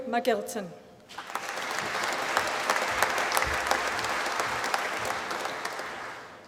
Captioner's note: applause